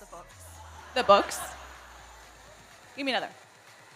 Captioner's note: audience laugh